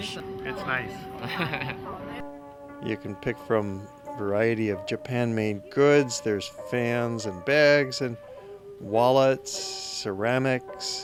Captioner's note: laughter